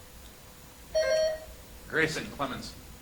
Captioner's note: buzzer chimes